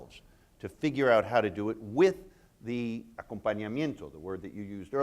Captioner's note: speaking in foreign language